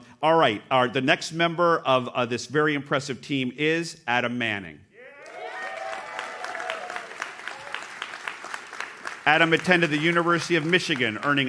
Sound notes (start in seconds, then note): 5.0 audience cheers